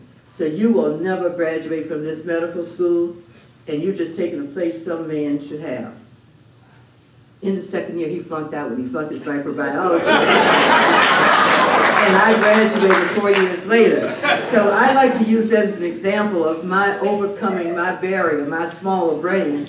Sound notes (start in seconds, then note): 9.9 laughter; 11.0 applause